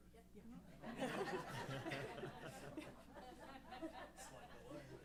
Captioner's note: laughs